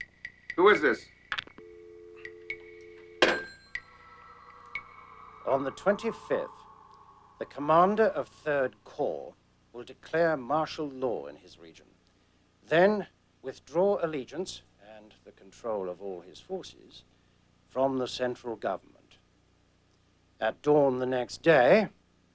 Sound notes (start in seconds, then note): 1.6 dial tone